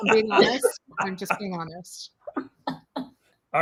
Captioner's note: chuckles